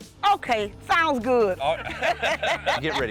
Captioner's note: laughing